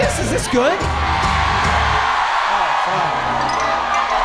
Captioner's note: audience cheering loudly; playful music